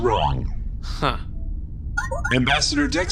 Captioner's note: transmission alert noise